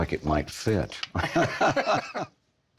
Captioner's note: all laughing